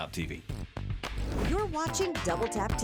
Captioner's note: screen swooshes